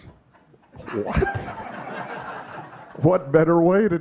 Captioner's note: audience laughing